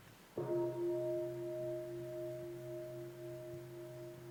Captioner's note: bell